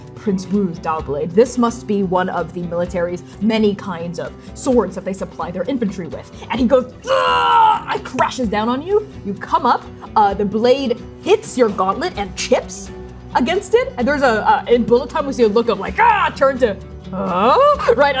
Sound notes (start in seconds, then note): 7.6 yelling